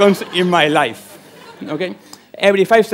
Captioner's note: laughter